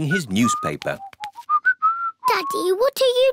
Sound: whistling

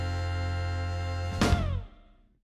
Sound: lightsaber Noise

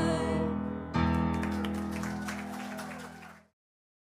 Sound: applause

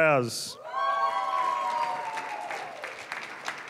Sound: applause, cheering; applause

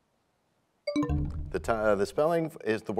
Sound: bell chimes, time expires

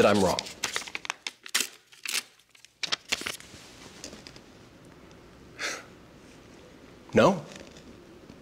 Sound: tearing paper

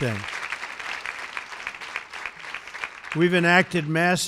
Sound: applause

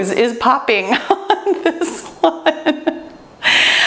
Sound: laughs

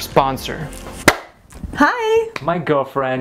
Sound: clap

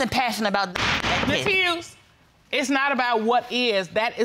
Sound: gavel banging

